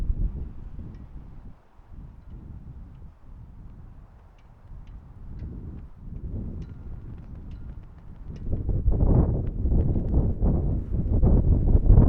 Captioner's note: wind howling